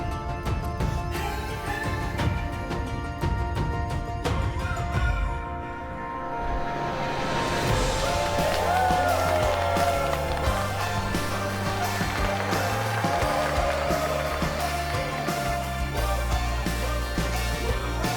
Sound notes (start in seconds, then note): 8.5 cheering